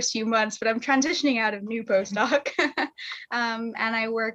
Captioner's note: chuckles